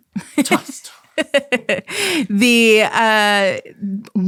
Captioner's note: giggling